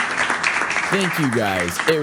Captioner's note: audience applauds